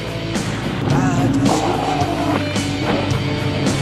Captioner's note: more motor revving